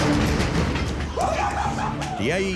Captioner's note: all cheering